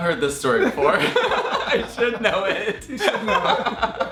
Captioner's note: laughing